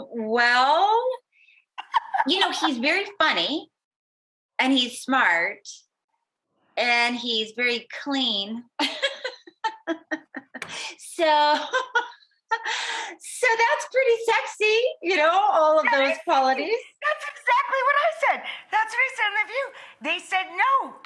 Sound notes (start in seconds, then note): 8.8 laughing